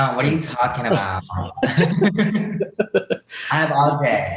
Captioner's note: Bretman and Raffy laugh